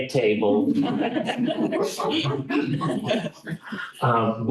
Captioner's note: laughter